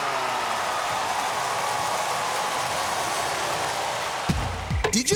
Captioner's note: cheers and applause